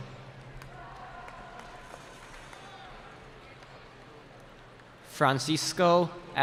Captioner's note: cheering